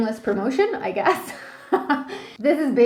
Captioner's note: laughing